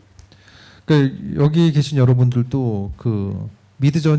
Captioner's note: speaking korean